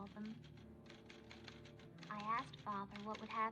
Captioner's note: typing